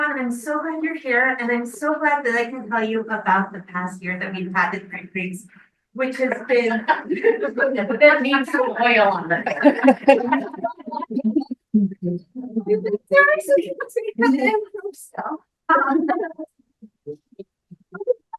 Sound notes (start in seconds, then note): 8.3 members laughing; 11.4 speaking faintly